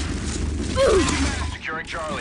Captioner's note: gun firing; grunts